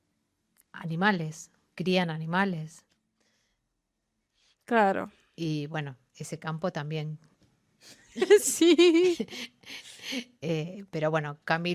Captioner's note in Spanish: risas